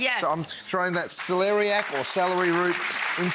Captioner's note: audience applauding